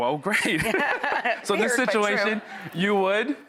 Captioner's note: laughs